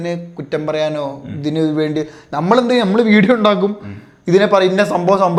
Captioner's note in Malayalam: തൊണ്ട ശരിയാക്കുന്നു